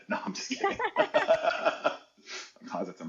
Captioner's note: laughing